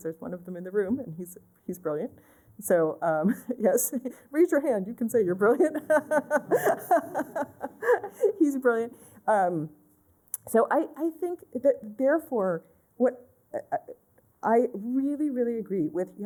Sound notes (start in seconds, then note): 2.2 laughter